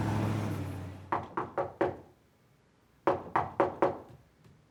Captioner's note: knocking at door